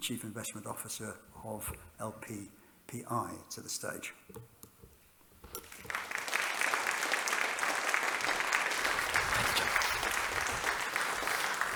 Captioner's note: applause